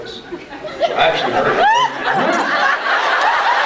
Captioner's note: laughs; scattered laughs; laughs